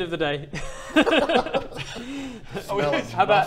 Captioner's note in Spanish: risas